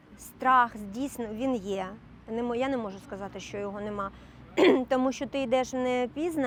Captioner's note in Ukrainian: прочищення горла